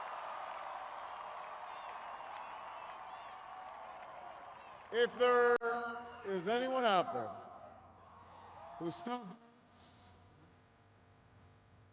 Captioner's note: cheering